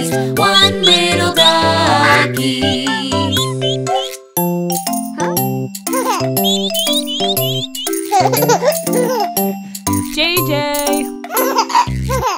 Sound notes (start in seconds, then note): 4.6 piano playing; 6.0 giggles; 6.4 duckies quack; 8.4 giggles